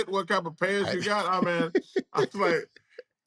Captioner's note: laughs